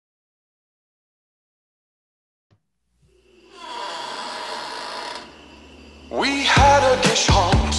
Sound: creaking noises

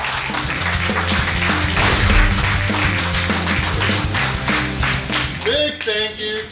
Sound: clappng & Cheering

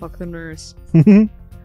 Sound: giggles

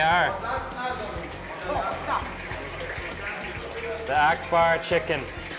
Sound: men speaking foreign language

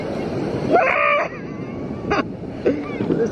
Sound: yells; laughs

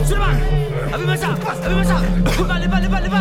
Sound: Malay Language

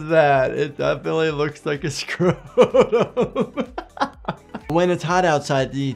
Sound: laughing

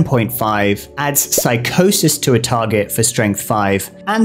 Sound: bubble pops

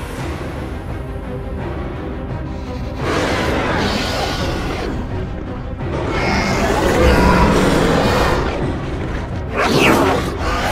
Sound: Scorpius Rex attacks

